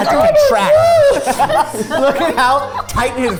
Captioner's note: babbling; group laughing